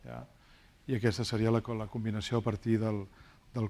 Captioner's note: speaking spanish